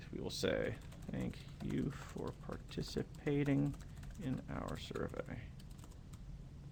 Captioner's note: typing